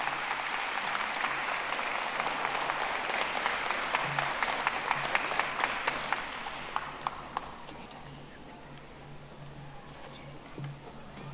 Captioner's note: audience applauding